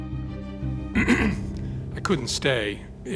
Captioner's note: clears throat